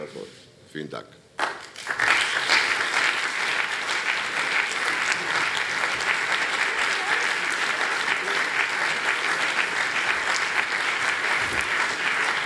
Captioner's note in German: Allgemeiner Beifall - Die Anwesenden nehmen ihre Plätze wieder ein